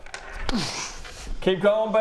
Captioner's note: doosch